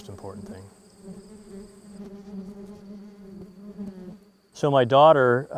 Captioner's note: bees buzzing